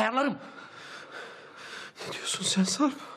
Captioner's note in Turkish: Nefes sesi